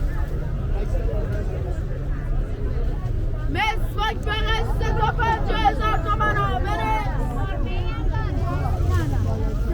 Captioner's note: Farsi